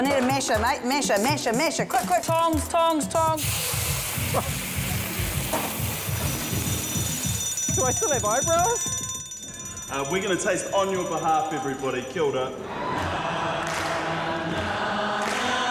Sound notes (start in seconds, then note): 6.0 smoke alarm